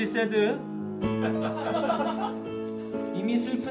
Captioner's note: laughing